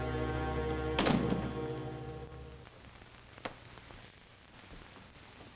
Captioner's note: door thuds shut